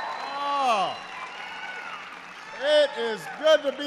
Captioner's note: applause